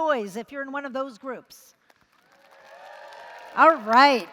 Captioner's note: applause & Cheering